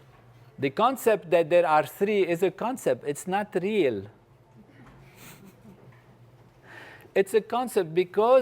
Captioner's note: laugh